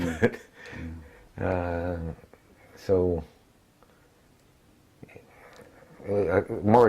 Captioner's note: laugh